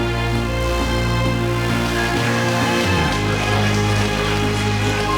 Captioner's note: cheers and applause